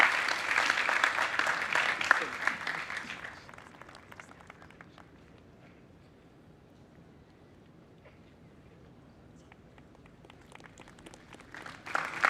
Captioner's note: applause